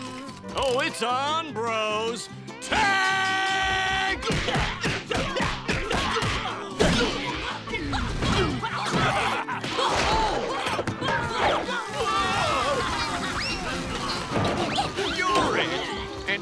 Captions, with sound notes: Oh, it's on, bros. Tag! [grunting] - [laughing] - Oh! Whoa! You're it.